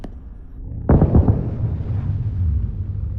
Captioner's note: muffled explosions